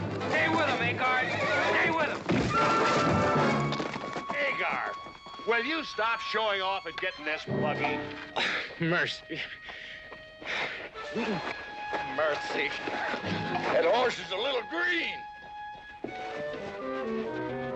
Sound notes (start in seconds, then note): 2.3 thump